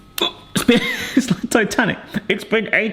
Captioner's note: laughs